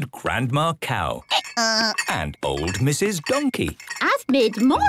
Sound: braying

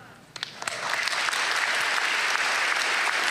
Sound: applause

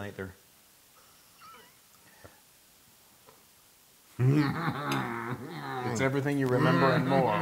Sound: laugh

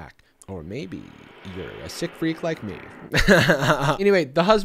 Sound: laughing

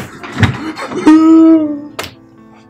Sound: crying

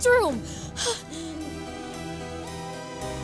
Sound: whimpers

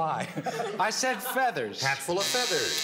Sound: buzzer

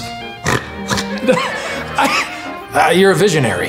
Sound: snorts

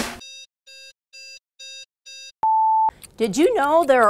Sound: beeping

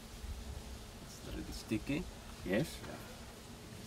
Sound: chef speaking

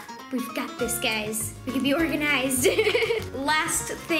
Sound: laughs

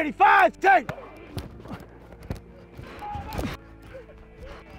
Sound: grunts

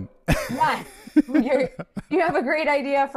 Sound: laughs

